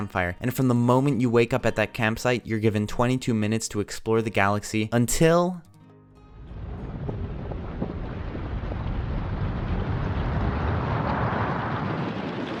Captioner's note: boom!